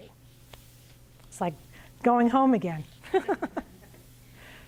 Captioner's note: laughs